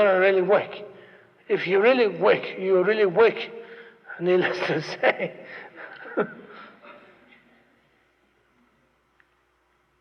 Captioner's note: laughs